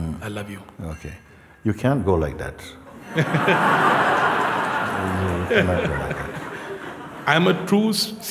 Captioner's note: Lachen